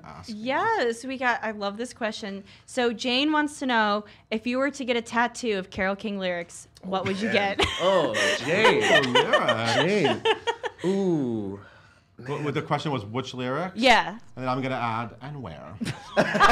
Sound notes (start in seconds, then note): 7.0 laughs